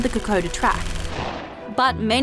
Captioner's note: gunshots